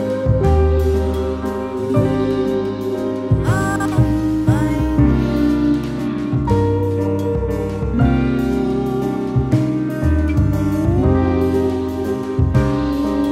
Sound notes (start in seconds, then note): 0.1 guitar, piano continue; 3.4 tinny, breaking up; 5.6 guitar, piano continue